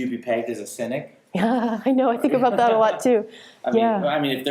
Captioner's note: laughs